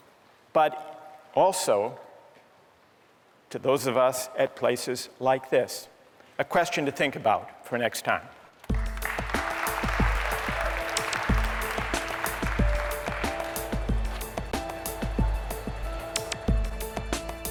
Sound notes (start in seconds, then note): 8.6 applause